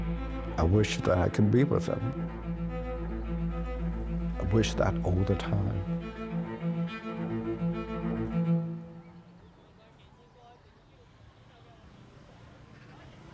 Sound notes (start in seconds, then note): 7.1 birds chirping